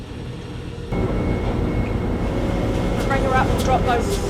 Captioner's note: machinery whirs